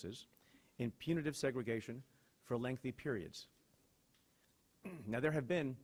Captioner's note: clears throat